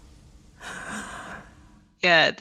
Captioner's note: soft laughter??